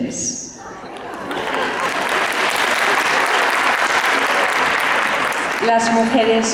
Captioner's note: laughter and applause